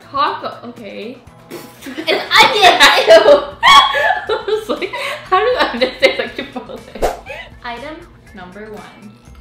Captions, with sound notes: - Taco, okay. (spitting) - It's onions, eew! (laughing) - How do onions taste like Chipotle? (laughing) (slide swooshing) - Item number one.